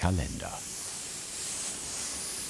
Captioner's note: airbrush hissing